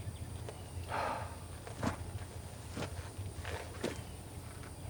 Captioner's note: Anderson sighing